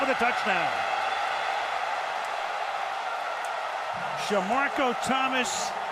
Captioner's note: cheering